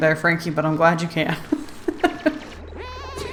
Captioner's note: laughs